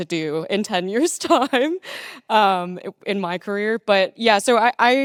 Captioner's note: laughing